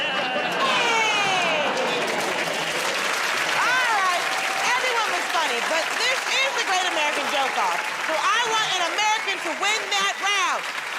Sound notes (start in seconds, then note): 2.3 applause